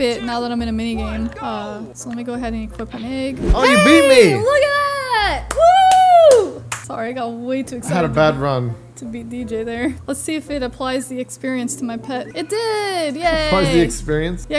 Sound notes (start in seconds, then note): 5.4 clapping